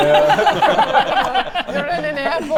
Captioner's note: violent giggles